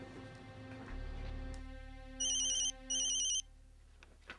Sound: phone rings

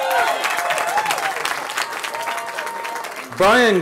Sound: cheering

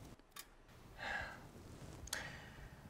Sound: sighs

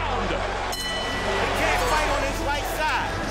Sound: bell dings

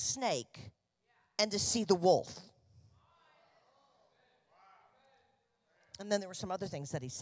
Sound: congregation affirming

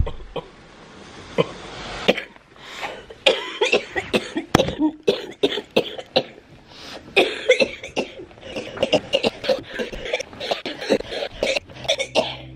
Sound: coughing

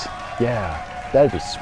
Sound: cheering and applauding

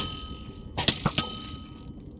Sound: arrow ding

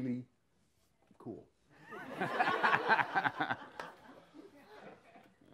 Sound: laughs

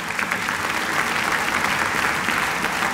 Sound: applause

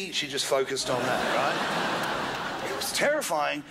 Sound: crowd laughs

